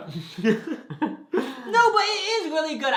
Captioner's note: both laugh